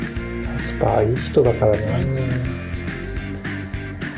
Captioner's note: laughs